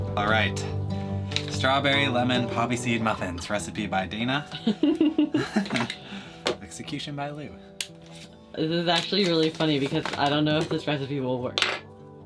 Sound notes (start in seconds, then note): 4.6 chuckling